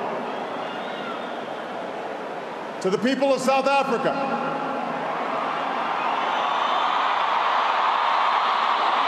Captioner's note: applause